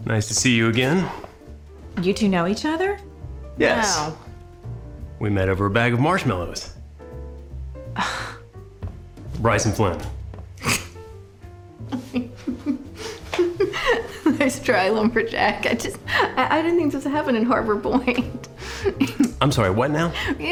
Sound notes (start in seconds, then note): 7.9 sighs; 11.9 drucinda laughing